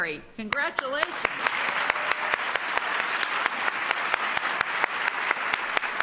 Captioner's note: applause